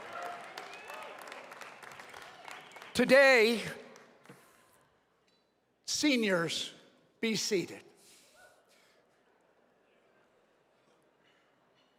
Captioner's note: cheering and applause